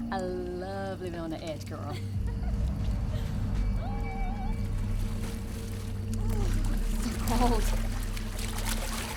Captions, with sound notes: - I love living on the edge, girl. (Candace laughs) (tense music) - It's too cold.